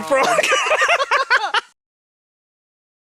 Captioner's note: laughs